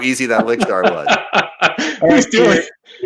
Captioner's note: laughing